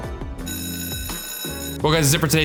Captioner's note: bell ringing